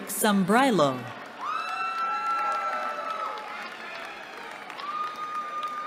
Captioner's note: cheering